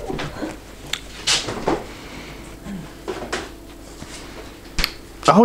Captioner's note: fridge opening